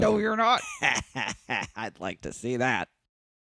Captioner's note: cackling